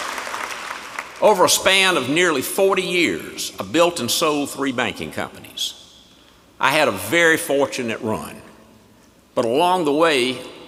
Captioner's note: applause